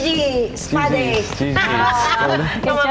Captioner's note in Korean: 웃음